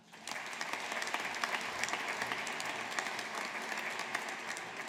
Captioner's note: audience applauding